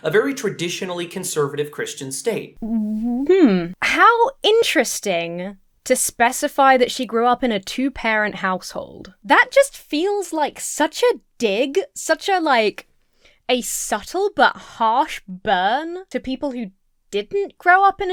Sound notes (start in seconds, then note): 2.6 hums